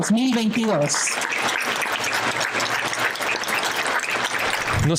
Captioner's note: aplause